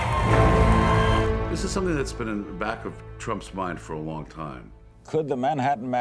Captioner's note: continued cheering